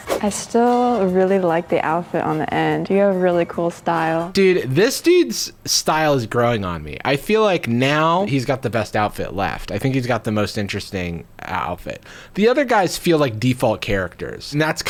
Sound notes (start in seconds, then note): none